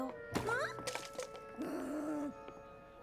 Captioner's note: growl